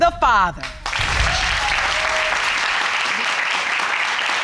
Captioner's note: audience applauding